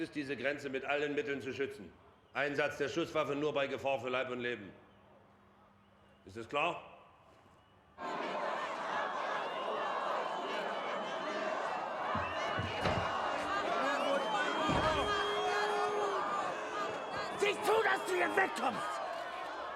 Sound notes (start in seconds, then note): 9.2 chant